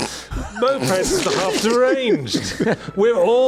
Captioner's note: chuckles